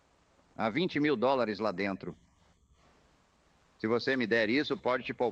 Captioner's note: none